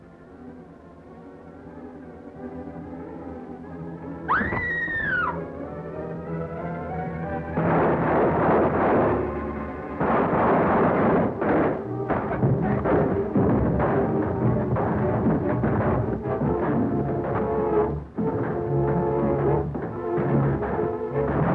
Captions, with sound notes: (flames roaring) - I can't get very close to that fire. - You've got to! Dick Tracy's aboard that ship! (flames crackling)